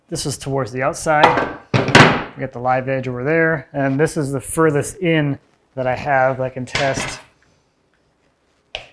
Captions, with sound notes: this is towards the outside. (wood clatters) We got the live edge over there, and this is the furthest in that I have I can test.